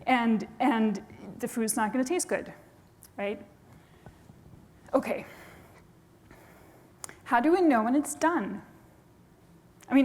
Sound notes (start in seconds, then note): none